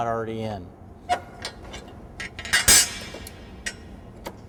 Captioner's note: metal squeaking and clanking